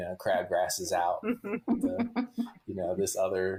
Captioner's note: laughs